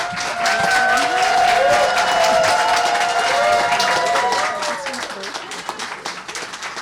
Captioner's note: applause